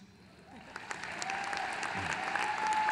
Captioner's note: applause